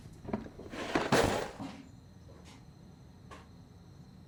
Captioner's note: box clatters